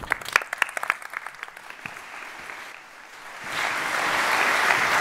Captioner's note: applause